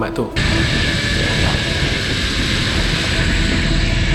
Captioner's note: whirring sounds